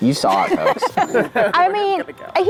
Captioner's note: group laughs